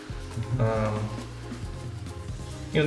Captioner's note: laughing